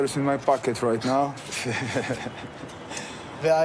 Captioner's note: laughing